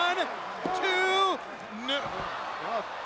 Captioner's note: crowd cheering